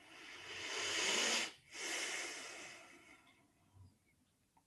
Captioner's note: breathing